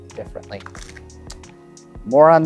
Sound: cards riffling

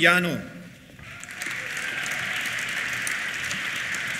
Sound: cheers; applause

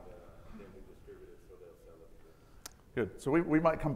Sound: audience member speaking faintly

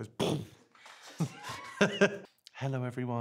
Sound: laughs

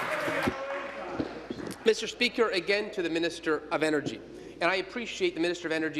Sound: applause

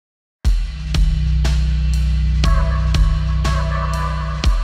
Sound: rhythmic electronic tones

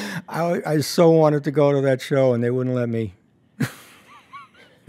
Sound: laughs

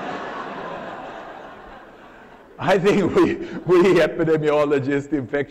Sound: laughter

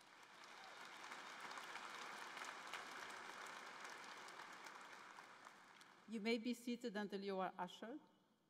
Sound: applause

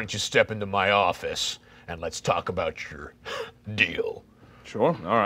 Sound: laughing

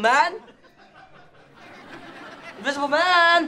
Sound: crowd laughing

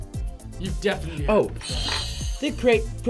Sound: buzzer rings

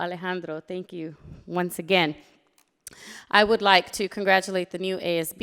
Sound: none

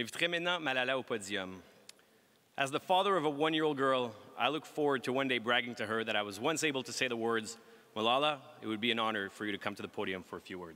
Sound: speaking french

